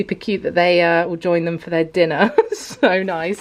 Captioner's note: chuckles